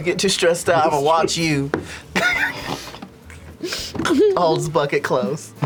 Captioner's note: laughs